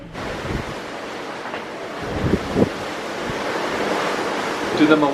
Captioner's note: ocean swell lapping calmly